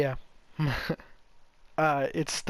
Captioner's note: nervous chuckling